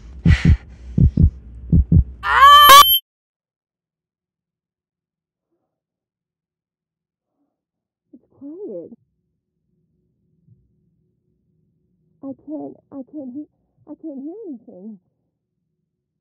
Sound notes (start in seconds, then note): 0.0 whispering; 0.2 panicked breathing; 1.6 heart beat gets louder and faster; 2.2 screams; 3.0 silence